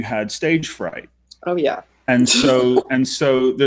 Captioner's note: laughing